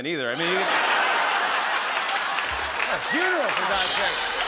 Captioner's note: laughter